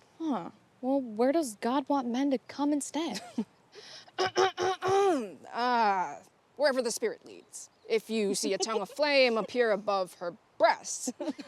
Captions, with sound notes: - Huh, where does God want men to cum instead? (Kimberly chuckles) (Kimberly clears throat) - Wherever the spirit leads. If you see a tongue of flame appear above her breasts...